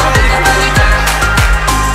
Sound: clap clap

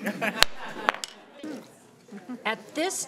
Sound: everyone laughing

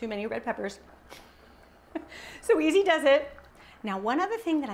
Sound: chuckles

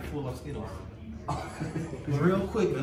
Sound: laughing

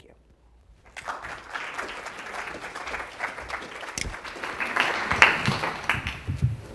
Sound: applause

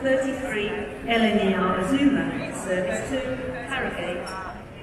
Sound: crowd murmuring

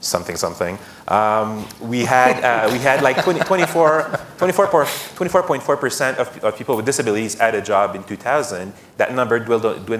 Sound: laughter

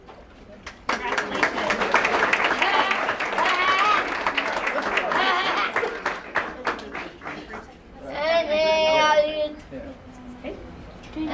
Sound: applause

